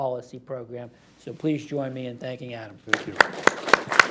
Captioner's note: applause